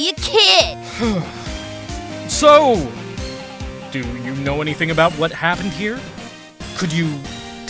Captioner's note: sigh